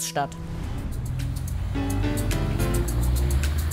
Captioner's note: traffic noise, friendly music